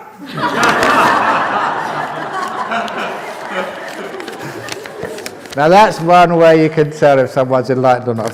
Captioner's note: laughter